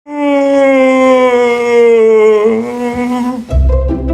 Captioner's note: groaning